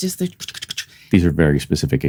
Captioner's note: imitates Thumping